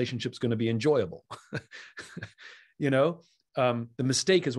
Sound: Simon chuckles

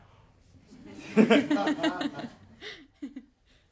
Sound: laughs

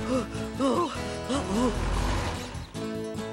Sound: panting

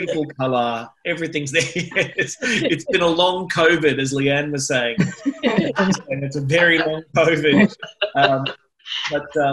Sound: laughter

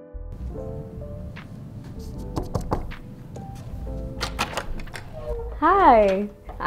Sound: knocking sounds

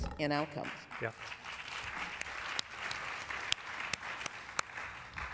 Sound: applause

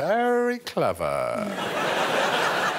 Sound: audience laughing

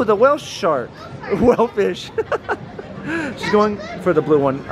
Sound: both laughing

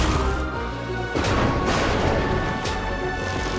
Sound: thunder cracks

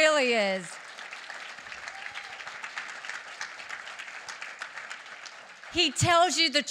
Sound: applause

